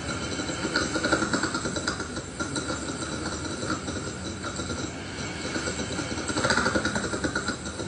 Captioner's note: deep mechanical sound